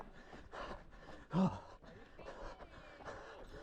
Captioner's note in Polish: dyszenie